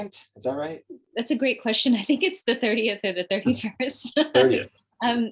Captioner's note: laughs